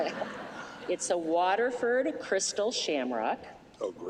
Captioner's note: laughter